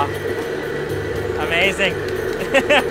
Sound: laughs

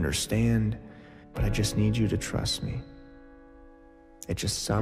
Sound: deep breath

